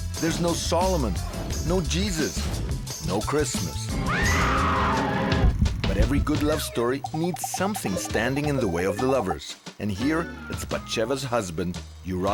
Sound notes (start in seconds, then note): 4.0 woman screaming